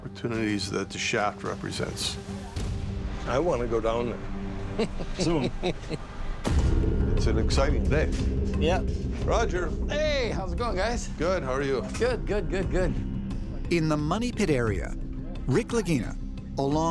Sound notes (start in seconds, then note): 4.7 laughs